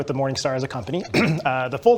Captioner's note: clears throat